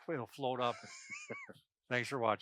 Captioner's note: laughs